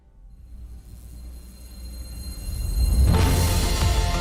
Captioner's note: buzzing sound